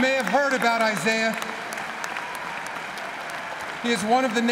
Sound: applause

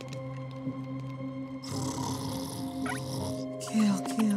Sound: snoring

